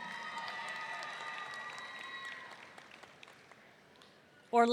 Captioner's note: audience cheering